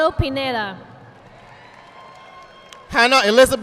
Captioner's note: audience applauding